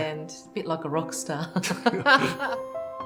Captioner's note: both laugh